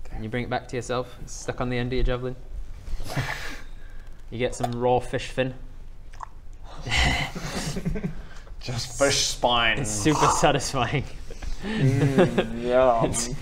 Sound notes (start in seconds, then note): 7.1 laughter